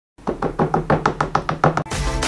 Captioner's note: tap! Tap! Tap! Tap! Tap!; intro Music